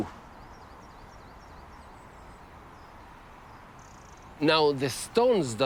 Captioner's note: birds chirping